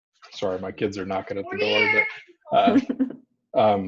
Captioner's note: laughs